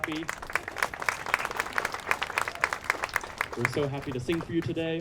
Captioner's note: all applauding